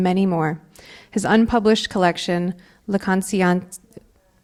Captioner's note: speaking in Spanish